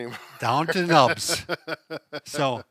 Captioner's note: chuckles